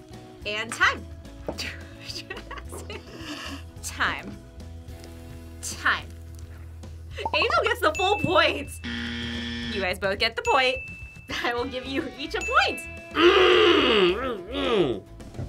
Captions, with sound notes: And time. (laughs) Jaxon. Time. Time. Angel gets the full points! (buzzer) You guys both get the point. I will give you each a point! - (grunts)